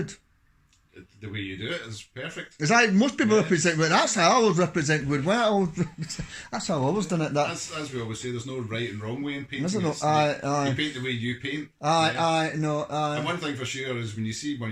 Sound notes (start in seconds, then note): 4.9 chuckles